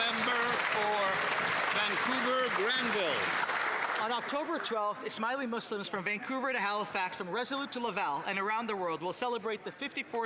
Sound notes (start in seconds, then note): 3.5 applause